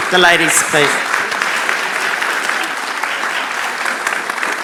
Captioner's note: applauds